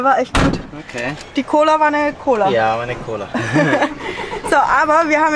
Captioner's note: laughter